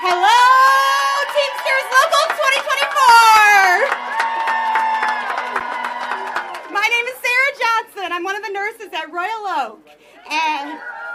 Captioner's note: applause